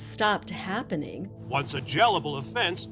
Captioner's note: soundbite of archived recording